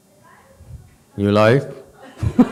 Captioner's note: laughs, audience laughs